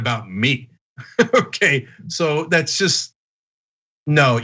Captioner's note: laugh